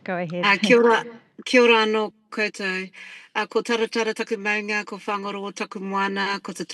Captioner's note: speaking in foreign language